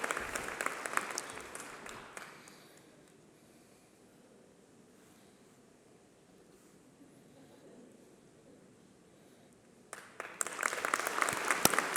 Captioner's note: applause